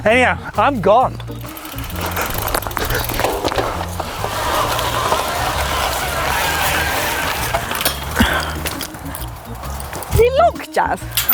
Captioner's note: laughs